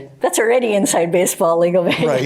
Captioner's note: chuckling